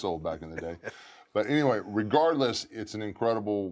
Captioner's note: laugh